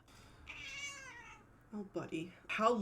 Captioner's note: cat meows indignantly